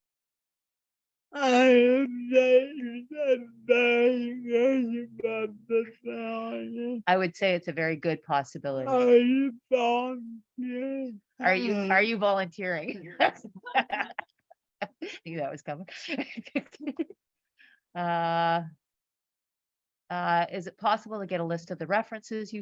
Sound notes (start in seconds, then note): 12.8 laughs